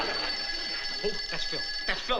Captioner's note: phone rings